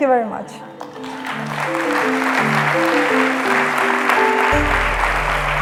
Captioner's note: applause